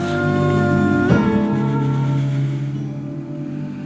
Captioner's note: moaning